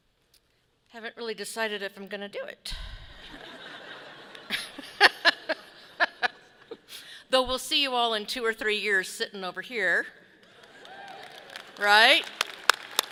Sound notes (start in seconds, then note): 3.3 audience laughing; 3.3 laughing; 12.8 audience clapping